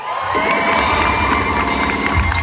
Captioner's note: applause